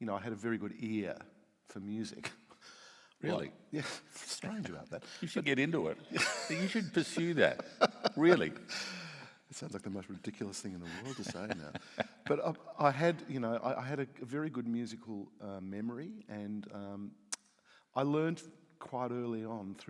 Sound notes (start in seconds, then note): 8.6 laughs